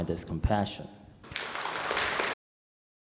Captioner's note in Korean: 청중 박수